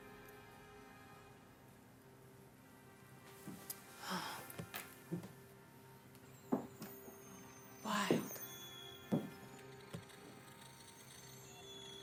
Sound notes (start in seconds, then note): 4.0 sighs; 9.1 boots tapping